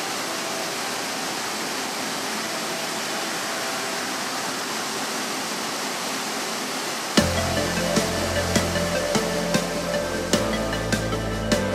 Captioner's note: waterfall sounds